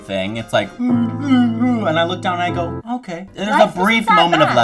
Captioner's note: imitate crying